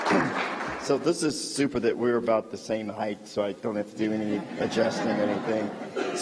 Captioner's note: applause